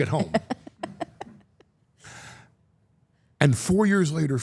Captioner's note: Steph laughing